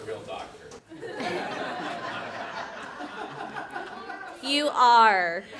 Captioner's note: laughter